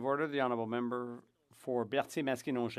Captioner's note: speaking French